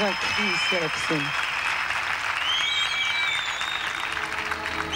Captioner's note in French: applaudissements